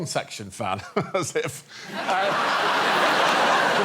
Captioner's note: laughs